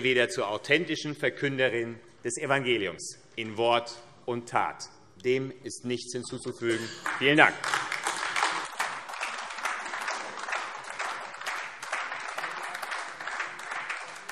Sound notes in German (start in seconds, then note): 8.5 Beifall AfD